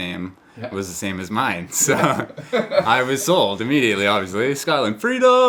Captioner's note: laughs